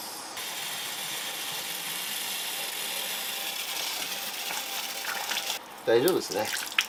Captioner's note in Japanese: シャワー音